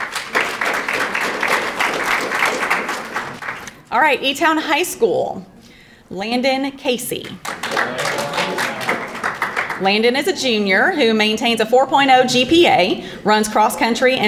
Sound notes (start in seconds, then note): 0.0 audience applauding; 7.4 audience applauding